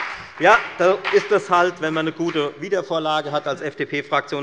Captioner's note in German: Beifall bei der FDP - Zuruf des Ministers Tarek Al-Wazir